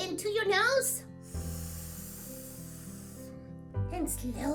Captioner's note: inhales